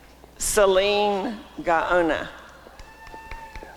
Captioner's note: applause and cheering